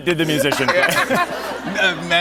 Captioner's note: laughter